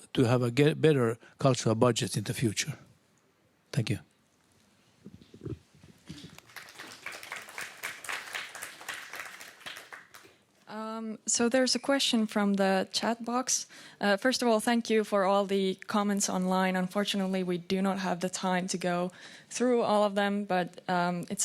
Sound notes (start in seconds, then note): 6.0 applause